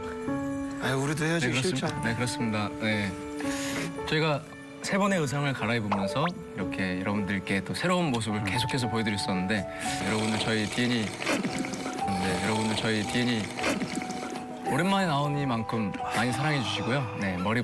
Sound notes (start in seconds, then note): 9.8 slurping loudly